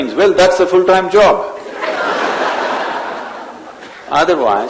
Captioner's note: laughter